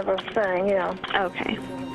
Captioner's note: 911 recording